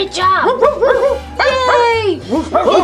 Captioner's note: barking